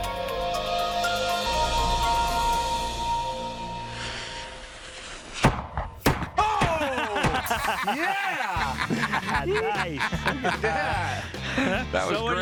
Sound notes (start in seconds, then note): 3.1 music fades; 3.7 echoing blasts; 6.8 laughter